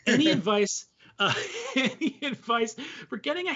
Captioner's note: laughing